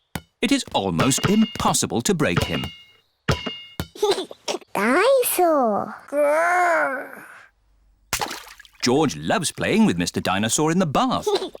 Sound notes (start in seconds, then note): 4.0 giggles